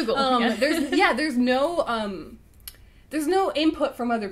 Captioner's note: laughs